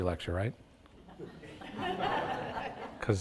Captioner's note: audience laughs